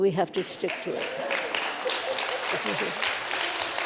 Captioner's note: applause